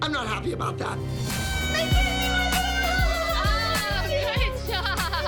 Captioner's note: cheering